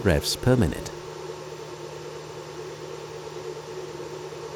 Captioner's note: motor humming